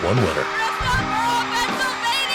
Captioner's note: audience cheering